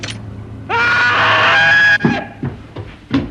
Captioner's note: screaming